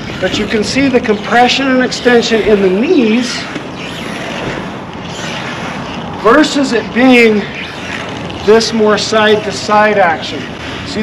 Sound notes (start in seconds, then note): 4.1 wheels creaking